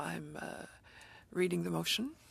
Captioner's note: speaking French